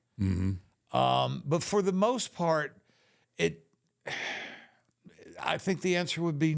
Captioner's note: sighs